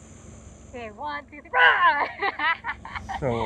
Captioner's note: laughs